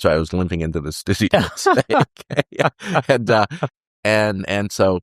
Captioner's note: laughter